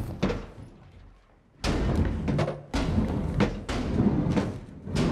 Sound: rolling and crashing

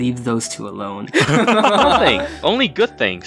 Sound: laughs

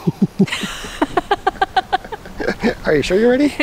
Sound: laughing

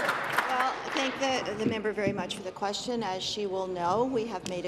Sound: applause

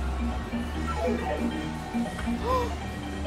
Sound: game warbling; gasps

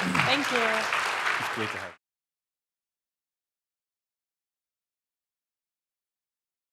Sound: audience clapping

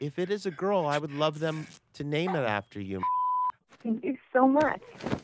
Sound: beeping

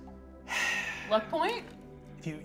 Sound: sighs

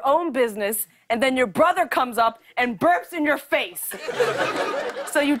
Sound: laughter

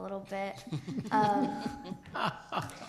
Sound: laughter

